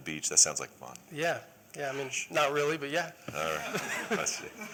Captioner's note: laughter